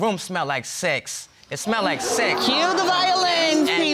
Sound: audience exclaiming

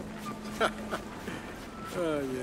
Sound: Jack laughs

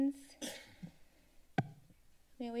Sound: sneeze; mic thump

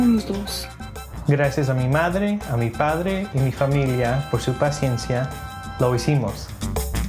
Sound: speaks in foreign language

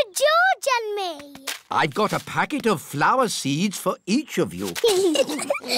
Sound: both giggling

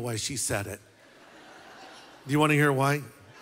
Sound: laughter

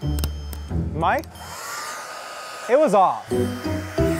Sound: hair dryer starts

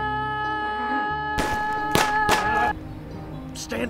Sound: gun shots

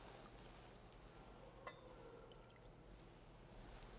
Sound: wine sloshing

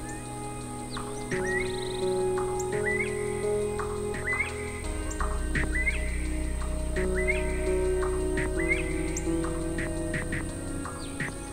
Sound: Northern bobwhite calling

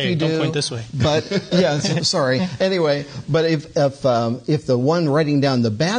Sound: laughs

